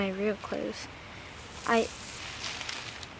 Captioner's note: leaves rustling